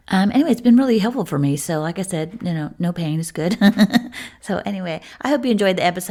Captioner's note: laughter